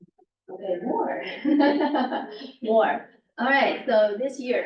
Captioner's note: laughs